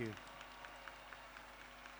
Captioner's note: applause